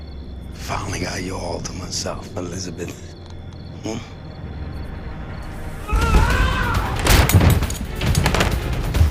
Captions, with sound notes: Finally got you all to myself, Elizabeth. Hmmph. [JOHNNY YELLS] [SCREEN DOORS CLACK OPEN]